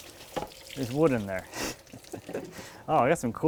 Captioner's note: laughs